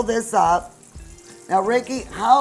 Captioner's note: oil sizzling